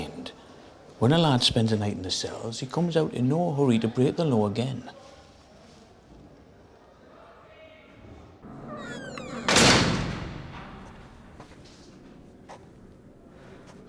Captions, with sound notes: I find... when a lad spends a night in the cells, he comes out in no hurry to break the law again. [door clangs shut]